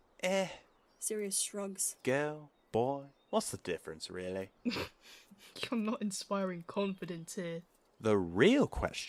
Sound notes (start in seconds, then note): 4.8 James snorts